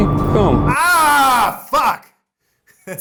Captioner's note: yelling